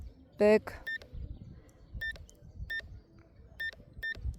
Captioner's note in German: Klick